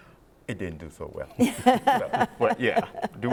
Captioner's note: laughs